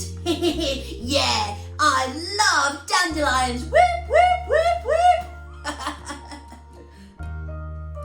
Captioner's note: laughter